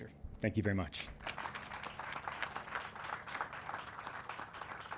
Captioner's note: audience claps